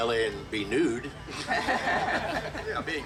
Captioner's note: group laughing